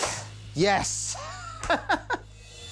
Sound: laughs

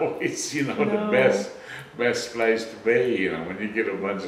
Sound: laughs

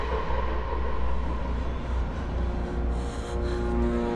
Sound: ominous music; scared breathing

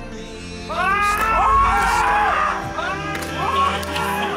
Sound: players yell

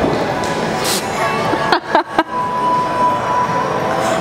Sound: laughs

